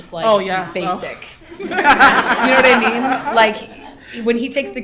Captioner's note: laughter